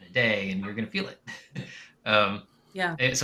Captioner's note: chuckles